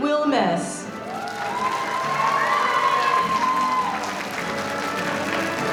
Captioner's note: audience applauding